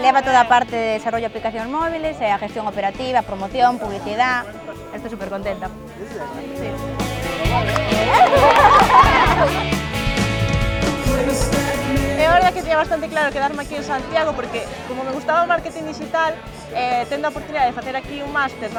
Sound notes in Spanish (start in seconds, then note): 8.8 aplausos y risas